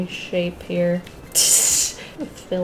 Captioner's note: laughs